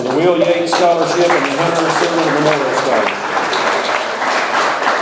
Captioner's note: audience applauds